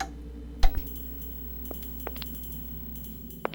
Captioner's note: footsteps